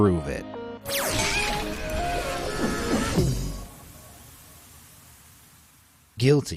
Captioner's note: upbeat music; mascot screaming